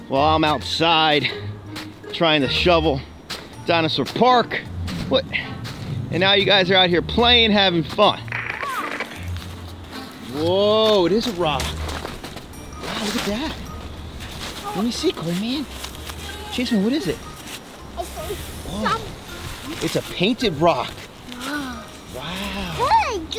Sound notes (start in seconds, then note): 7.4 static crunches; 13.6 footsteps crunch in snow; 15.1 clothes rustle